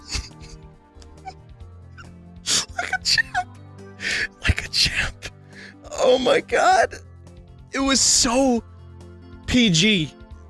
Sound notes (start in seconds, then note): 4.0 inhales; 4.0 sniffles